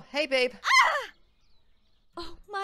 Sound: KOTONOHA screams

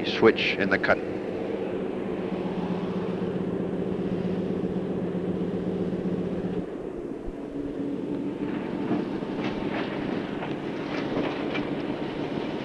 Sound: sound of the train moving

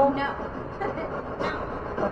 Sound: giggles

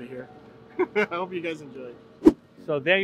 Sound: laughing; air whooshing

